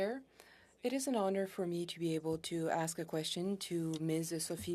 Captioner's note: speaking French